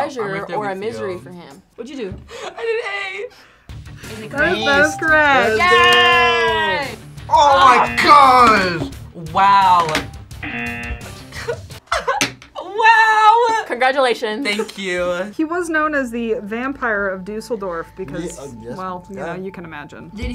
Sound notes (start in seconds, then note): 7.6 buzzer; 9.7 ding; 10.4 buzzer; 11.2 giggles